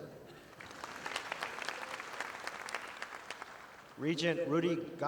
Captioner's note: audience applauding